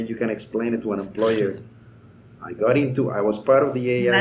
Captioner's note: laughing